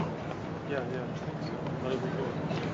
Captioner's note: murmuring